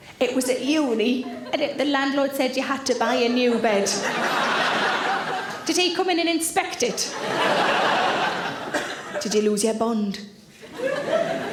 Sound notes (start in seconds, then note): 3.0 audience laughing; 6.9 audience laughing